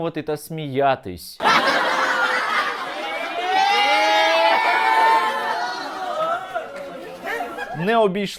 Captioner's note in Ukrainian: радісне улюлюкання